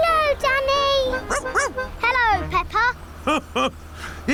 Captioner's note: barks; laughs